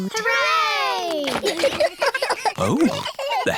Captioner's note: giggles